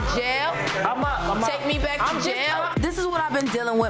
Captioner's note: overlapping chattering